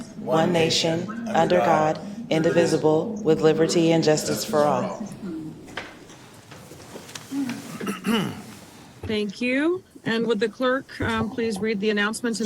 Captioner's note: reciting the pledge of allegiance